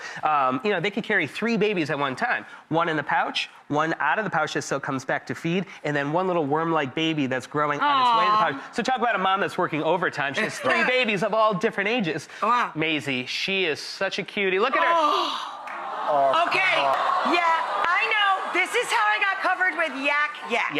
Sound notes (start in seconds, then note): 15.6 audience cooing